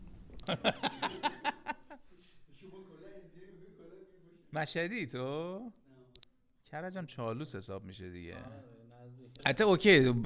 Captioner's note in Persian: خنده